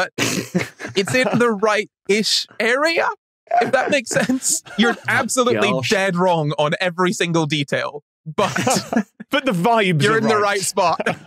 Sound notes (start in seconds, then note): 0.1 others snickering; 8.3 group laughing